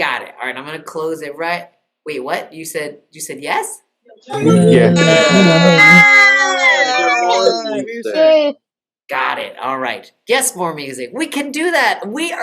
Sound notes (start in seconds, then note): 3.2 cheering